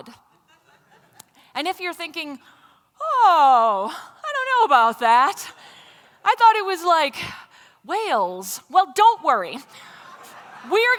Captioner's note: laughter; laughter